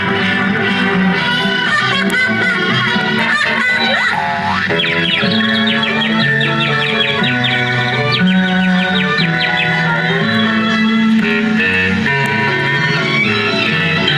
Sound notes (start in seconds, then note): 1.7 laughing; 3.8 boing; 4.8 tweet Tweet Tweet